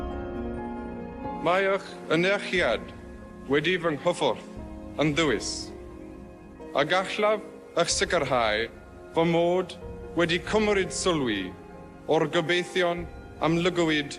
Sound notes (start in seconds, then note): 1.6 foreign language